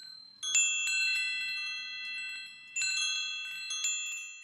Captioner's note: chimes jiggling